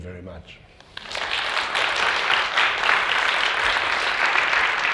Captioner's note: audience applauding